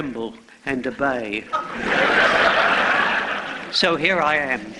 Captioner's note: laughter